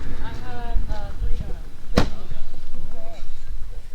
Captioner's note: dramatic music; group chattering